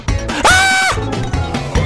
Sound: reflected Screaming

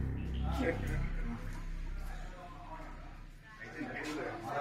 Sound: friends murmuring

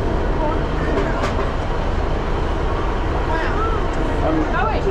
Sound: passengers chat

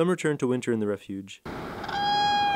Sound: crane call

